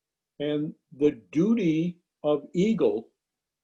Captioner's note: none